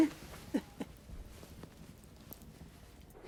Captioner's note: chuckling